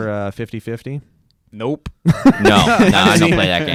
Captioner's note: laughs